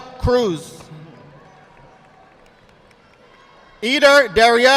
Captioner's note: audience applauding